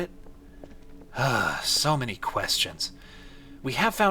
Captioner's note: sighs